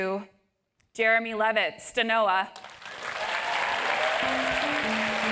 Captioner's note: applause